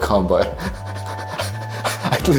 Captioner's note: laughs